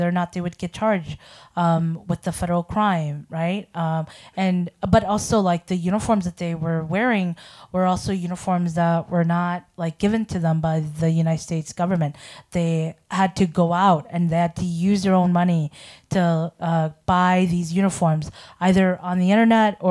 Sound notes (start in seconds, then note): none